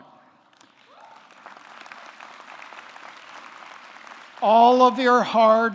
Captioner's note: audience clapping